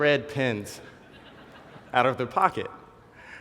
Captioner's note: laugh